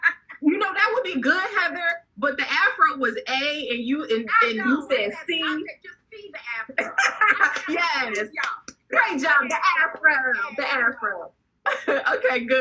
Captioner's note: laughing